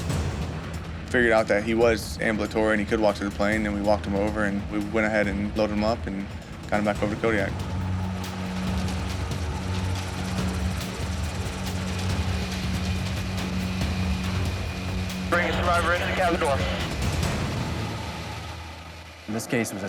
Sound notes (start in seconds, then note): 0.2 dramatic music; 9.2 helicopter whirs